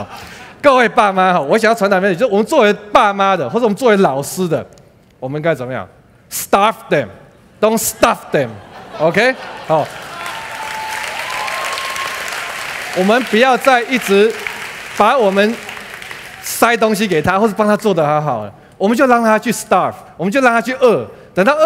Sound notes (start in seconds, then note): 9.8 applause